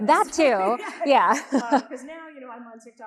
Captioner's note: both chuckling